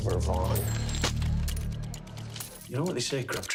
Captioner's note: bell dings; paper slaps sidewalk